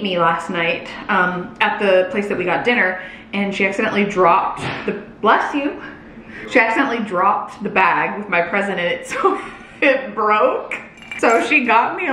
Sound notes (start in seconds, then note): 5.1 sneeze